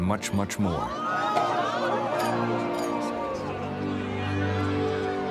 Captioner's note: people chattering